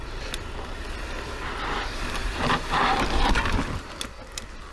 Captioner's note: bicycle creaks